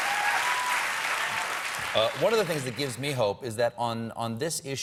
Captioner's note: applause